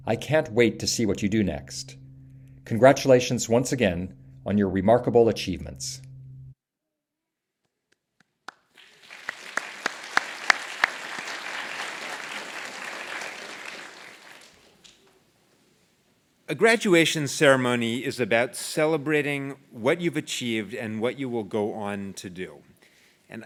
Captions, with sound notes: I can't wait to see what you do next, congratulations once again, on your remarkable achievements. >> [APPLAUSE] >> A graduation ceremony is about celebrating what you've achieved and what you will go on to do.